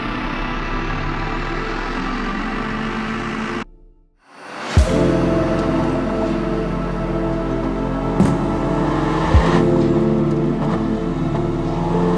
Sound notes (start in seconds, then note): 4.5 bright music; 4.8 engine rumbles